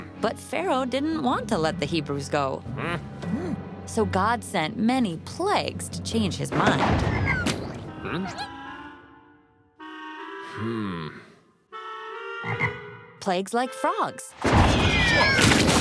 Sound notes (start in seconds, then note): 6.9 thunder; 7.4 splat; 12.4 ribbit